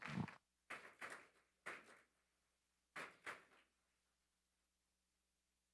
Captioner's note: attendees applauding